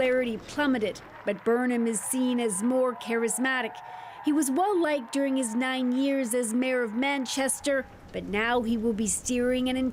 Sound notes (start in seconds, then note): 0.0 cheering and Applause